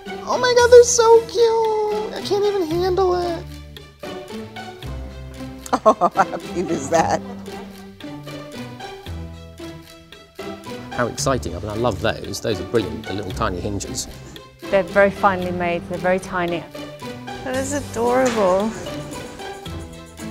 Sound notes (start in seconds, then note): 5.6 laughing